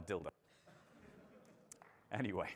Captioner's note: audience laughing